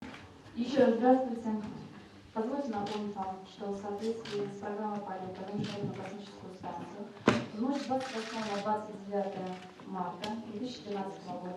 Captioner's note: speaking foreign language